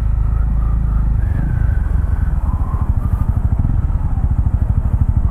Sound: whistles

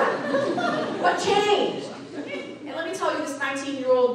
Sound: audience laughing

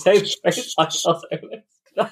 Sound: laughing

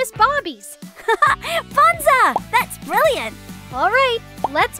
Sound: laughs

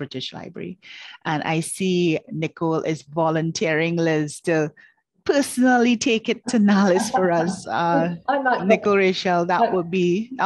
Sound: laughing

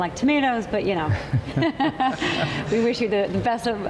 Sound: laughs

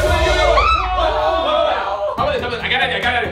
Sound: girls scream

